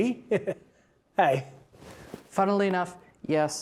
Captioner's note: chuckles